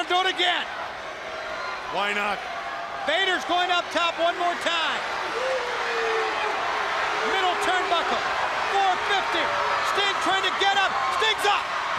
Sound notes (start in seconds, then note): 0.0 crowd chatter; 7.0 crowd cheering; 11.8 crowd cheering